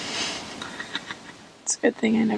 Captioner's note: laughs